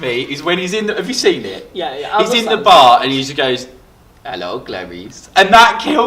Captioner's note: weird voice